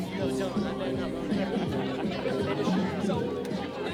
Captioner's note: laughter